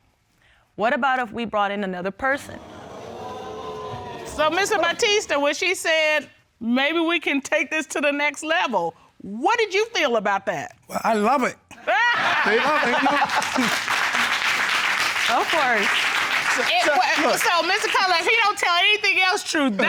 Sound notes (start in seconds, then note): 2.4 audience exclaims; 11.8 all laugh